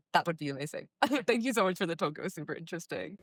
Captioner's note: laugh